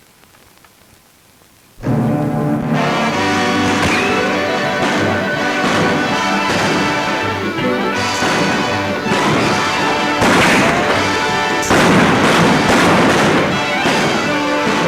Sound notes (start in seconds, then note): 2.2 dramatic music; 2.2 guns bang